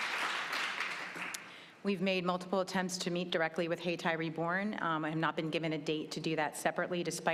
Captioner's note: applause